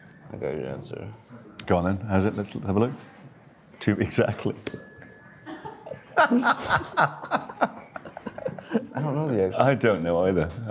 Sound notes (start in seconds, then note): 4.6 bell dings; 5.4 group laughs